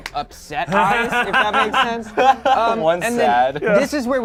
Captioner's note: group laughs